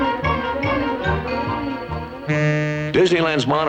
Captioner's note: monorail horn